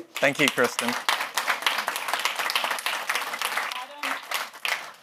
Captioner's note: attendees applauding